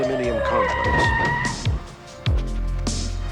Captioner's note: tires screech